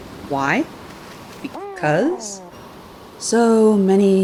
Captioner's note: cute grr-purr